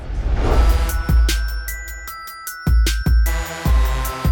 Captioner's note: chiming bells